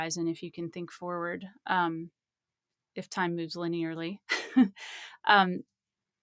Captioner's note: laughs